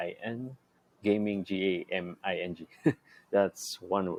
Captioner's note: chuckles